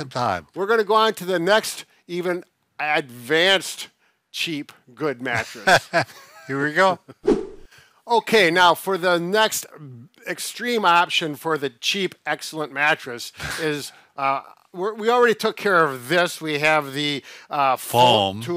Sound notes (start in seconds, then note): 5.4 chuckles; 7.2 whooshing sound